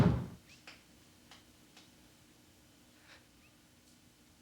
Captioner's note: door thudding